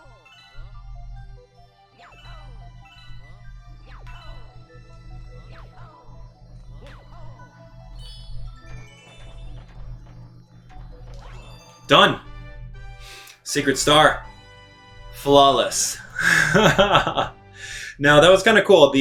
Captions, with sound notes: (gaming sounds) (instrumental music) (gaming sounds) (instrumental music) Done. (instrumental music) Secret star flawless. (laughing) (chuckles) Now that was kind of cool.